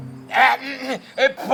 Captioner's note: clears throat